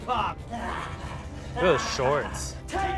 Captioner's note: laughs